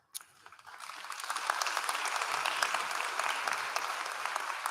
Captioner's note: applause